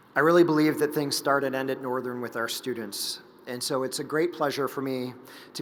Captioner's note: none